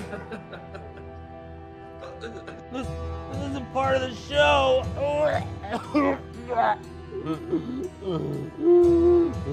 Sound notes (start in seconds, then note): 0.0 spooky music; 0.0 audience laughing; 5.8 retching